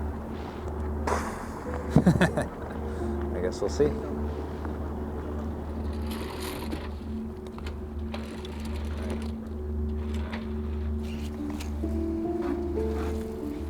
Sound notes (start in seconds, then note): 1.0 exhales; 1.0 speaker laughing; 4.6 intriguing orchestral music